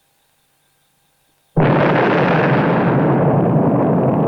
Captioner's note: explosion